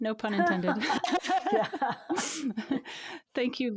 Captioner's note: both laughing